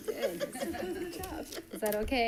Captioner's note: group giggling